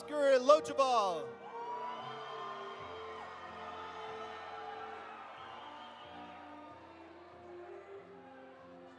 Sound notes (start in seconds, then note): 1.4 audience cheering; 1.4 audience applauding